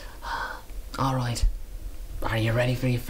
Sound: Irish accent

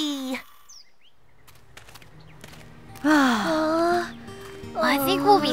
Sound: sighs; footsteps

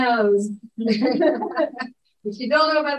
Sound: chuckling

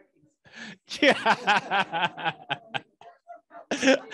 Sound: laughter

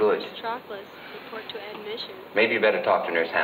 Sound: voice paging over speaker

